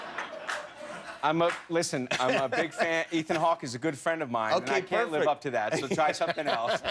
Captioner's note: laughter